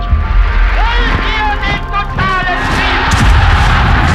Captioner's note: german